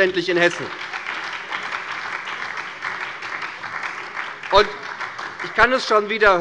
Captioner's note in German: Beifall bei der SPD